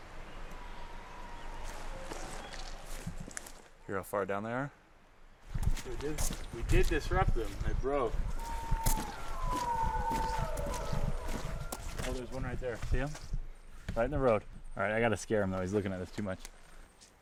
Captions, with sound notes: (wolves howling) Here how far down there are? We did disrupt them. I broke. (howling continues) Oh there's one right there. See him? Right in the road. All right, I gotta scare him though. He is looking at us too much.